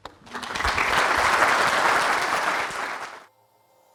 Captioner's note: applause